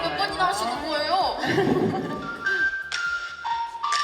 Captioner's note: hahaha